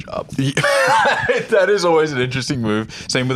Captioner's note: laughs